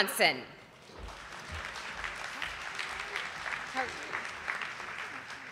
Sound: audience applauding

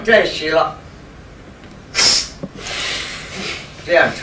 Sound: breath out

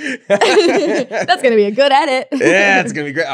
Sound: laughs

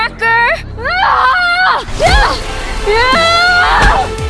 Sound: yelling

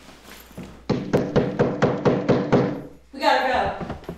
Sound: knocking

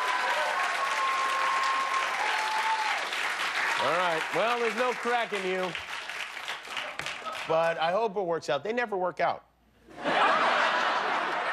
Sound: cheers and applause

